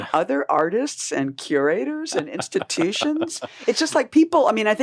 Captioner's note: laughing